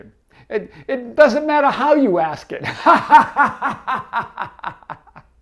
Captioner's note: laughing